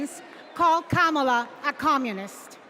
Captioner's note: cheers and applause